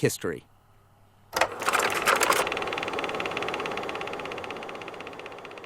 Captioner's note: film projector whirring